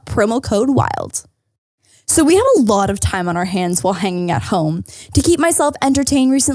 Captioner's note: none